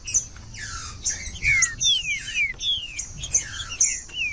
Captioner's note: trinca ferro cantando